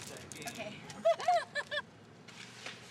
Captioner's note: laughing